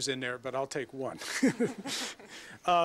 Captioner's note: laugh